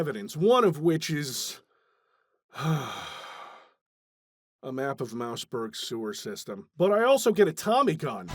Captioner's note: sigh